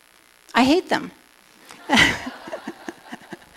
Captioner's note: laughter